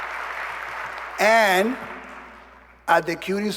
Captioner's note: applause